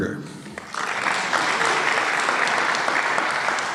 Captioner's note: applause